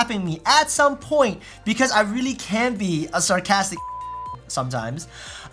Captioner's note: beep